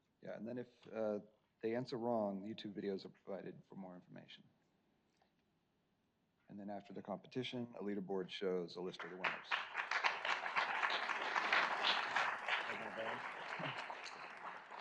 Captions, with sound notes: - Yeah, and then if they answer wrong, YouTube videos are provided for more information. And then after the competition a leaderboard shows a list of the winners. (audience applauds)